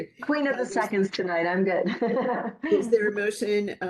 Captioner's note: laughing